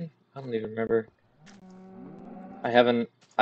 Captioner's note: cow in background